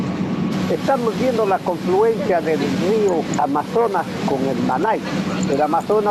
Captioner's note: speaking in foreign language